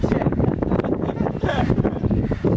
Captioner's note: chuckles